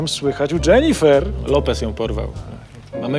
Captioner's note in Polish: wzdycha